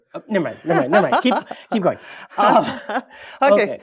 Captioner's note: laugh